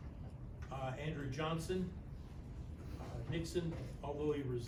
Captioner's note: none